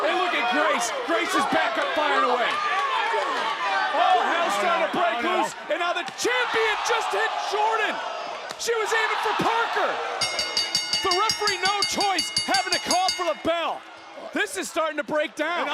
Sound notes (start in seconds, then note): 10.2 bell ringing